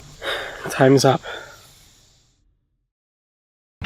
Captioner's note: sigh